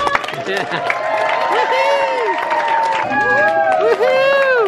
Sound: audience applause

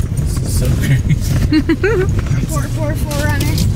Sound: laughs

